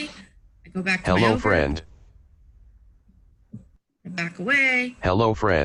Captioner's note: computerized Voice